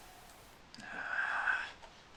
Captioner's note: breath